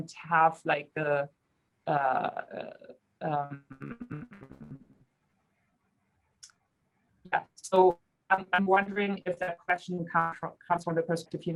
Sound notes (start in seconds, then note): 2.8 radio interference drowns out speaker